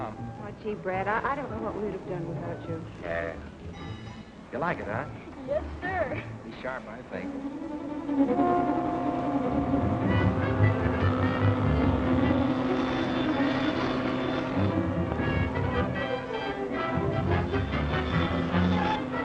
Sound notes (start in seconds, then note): 8.2 dramatic music; 12.1 rattling